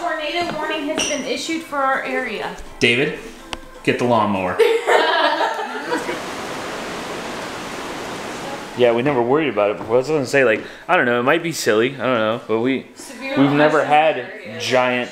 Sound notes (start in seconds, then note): 4.6 laughter; 5.8 wind gusting